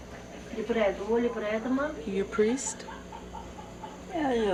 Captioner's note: daughter Speaking Italian; heavy Accent